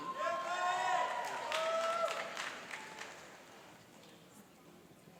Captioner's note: cheering and applauding